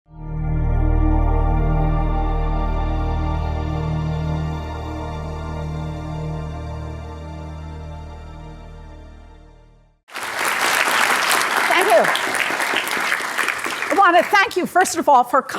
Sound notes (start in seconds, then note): 10.0 applause